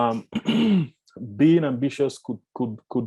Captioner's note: clears throat